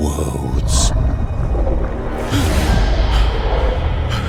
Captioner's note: ominous Roar